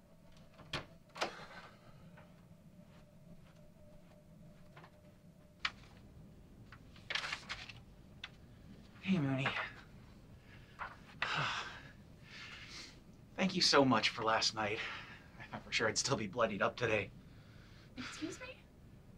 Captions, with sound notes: Hey Moonie. [Barry sighs] Thank you so much for last night. I thought for sure I'd still be bloodied up today. Excuse me?